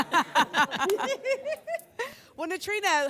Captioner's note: laughter